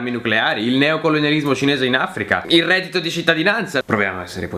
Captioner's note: italian